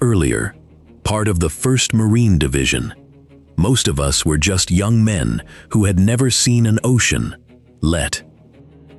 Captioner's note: breathe